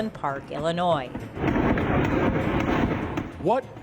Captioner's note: gunfire